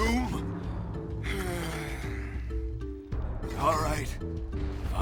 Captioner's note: sigh